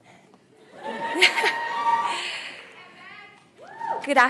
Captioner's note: laughs